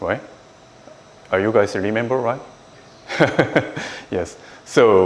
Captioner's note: laughs